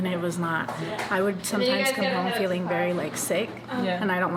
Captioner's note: none